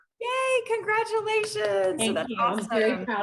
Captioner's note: claps